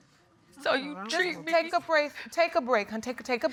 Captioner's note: crying